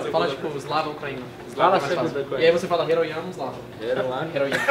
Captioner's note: speaks the sentence